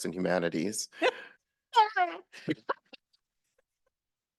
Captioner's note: laughs